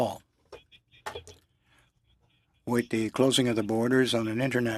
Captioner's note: speaking French